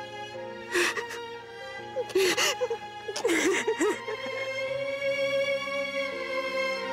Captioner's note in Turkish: Ağlıyor